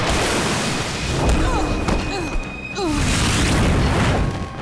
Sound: groaning

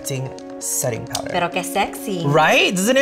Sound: speaks in Spanish

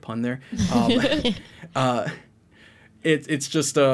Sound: all laughing

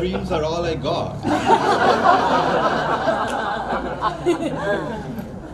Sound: crowd laughs

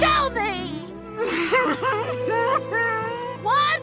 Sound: sobbing

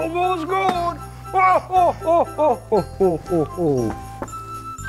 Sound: chuckling

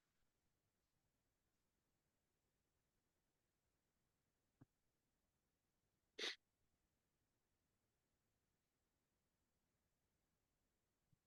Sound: silence

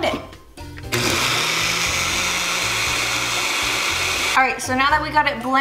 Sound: blender running

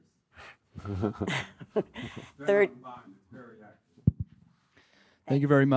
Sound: audience laughing

